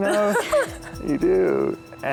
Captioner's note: laughs